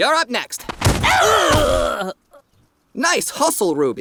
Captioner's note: grunting and groaning